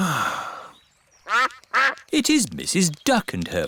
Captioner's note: sighs; quacking